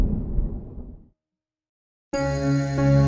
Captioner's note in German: Impact